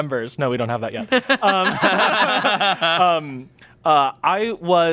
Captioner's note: laughing